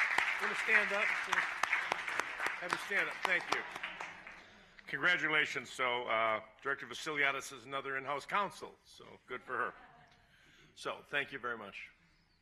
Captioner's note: applause